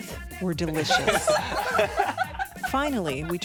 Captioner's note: laughter